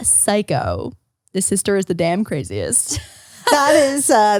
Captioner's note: laughs